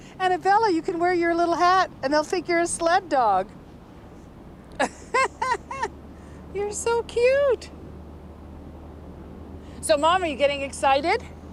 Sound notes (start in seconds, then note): 4.8 laughs